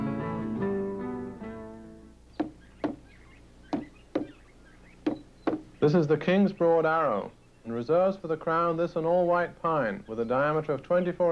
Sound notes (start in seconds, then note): 2.4 wood banging